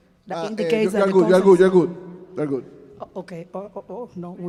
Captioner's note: band member speaking in Spanish